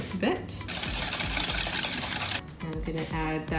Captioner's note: whisks eggs